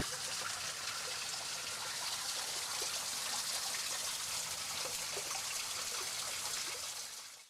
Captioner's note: water sounds